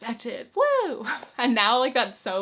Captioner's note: chuckles